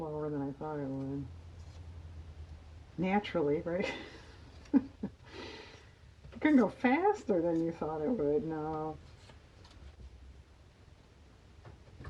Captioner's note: laughs